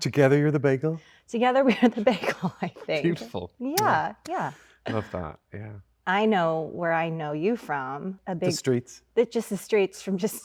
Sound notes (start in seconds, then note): 3.8 smacks lips